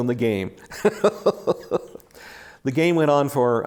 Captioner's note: laughs